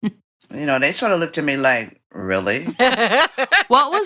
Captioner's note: laughter